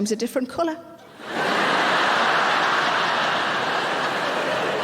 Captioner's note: audience laughing